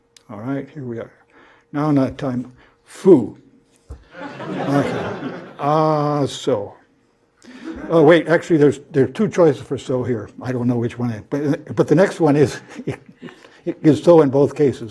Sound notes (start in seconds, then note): 4.1 laugh